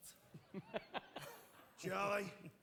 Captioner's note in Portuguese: Charlie laughs